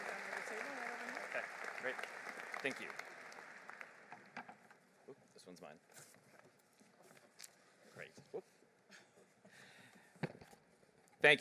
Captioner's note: applause